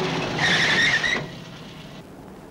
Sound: tires Screeching

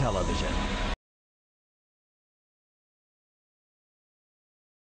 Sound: silence

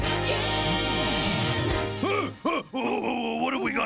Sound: startles

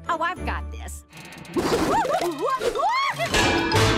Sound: screams; clanging

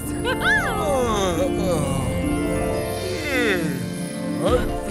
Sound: yawning

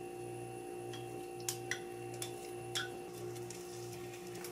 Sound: whisk whisk

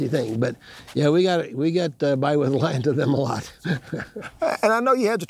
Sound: chuckles

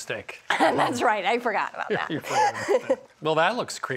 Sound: laughs

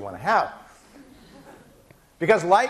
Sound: laughing

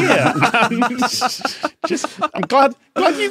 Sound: laugh

